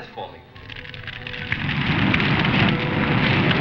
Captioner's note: crackling; dramatic music; fire roaring